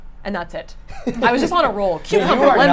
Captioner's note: chuckles